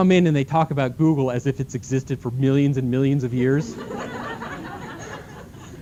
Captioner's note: laughter